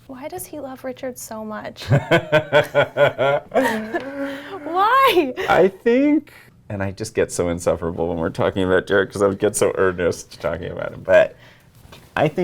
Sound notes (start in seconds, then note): 1.9 laughs